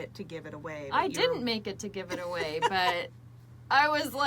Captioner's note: laughs